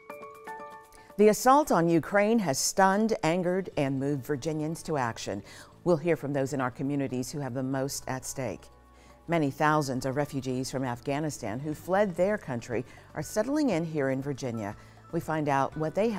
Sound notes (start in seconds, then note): none